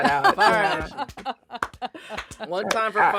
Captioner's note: laughing